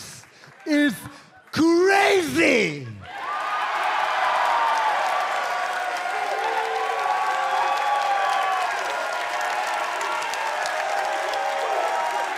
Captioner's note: crowd cheering